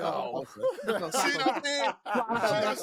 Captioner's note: laughter